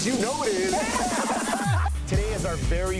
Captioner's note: laughter